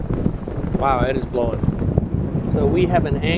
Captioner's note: fabric flapping